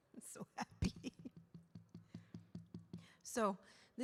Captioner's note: laughs; slow drumming